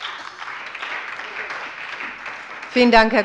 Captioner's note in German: Beifall bei der SPD und der LINKEN sowie bei Abgeordneten der FDP